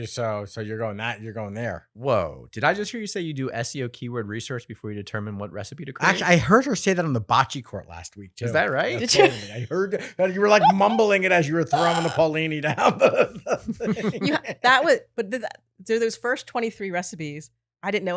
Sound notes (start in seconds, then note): 13.5 laughing